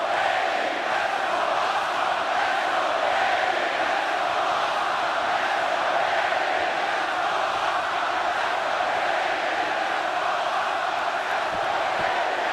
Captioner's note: crowd cheering